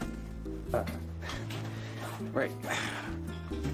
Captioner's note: sighs